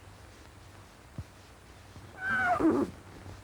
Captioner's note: neigh